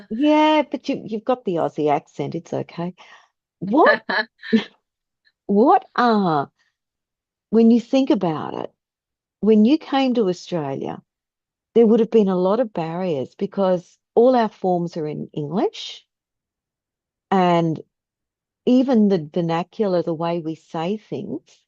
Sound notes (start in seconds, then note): 4.5 laughs